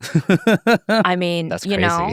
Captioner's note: laughing